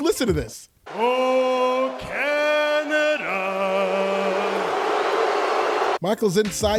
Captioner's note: boos